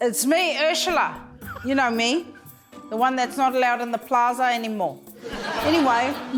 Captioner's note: laughter